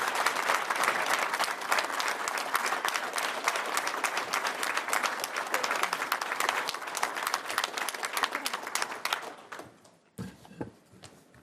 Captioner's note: cheers & Applause